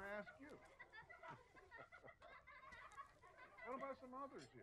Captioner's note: children Laughing